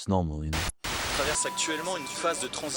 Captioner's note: tv chatter in French